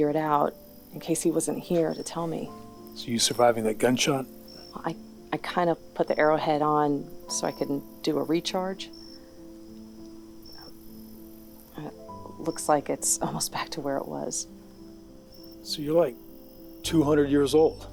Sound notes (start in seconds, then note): none